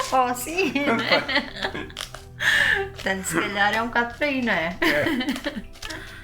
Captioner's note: laughs